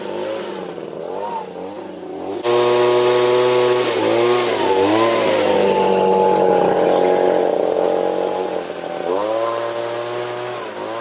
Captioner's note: engine sounds